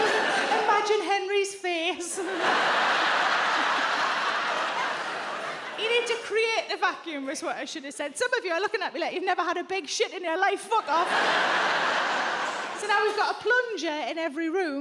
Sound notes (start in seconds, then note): 2.0 audience laughs; 2.2 chuckles; 10.8 audience laughs